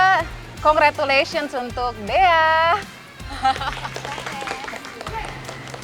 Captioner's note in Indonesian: hand claps